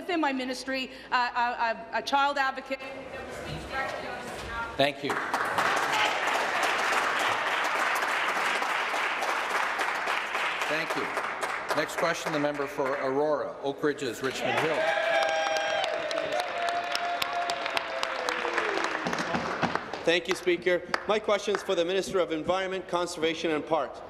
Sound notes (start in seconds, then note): 6.4 voice trailing; 9.2 applause; 17.8 applause; 18.6 cheers